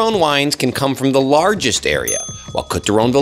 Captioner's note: bell dings